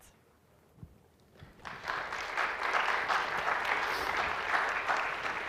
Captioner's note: clapping